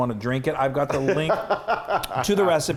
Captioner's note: laughing